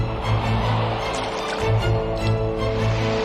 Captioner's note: water splashes; suspenseful music